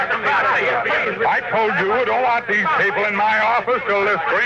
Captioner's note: crowd talking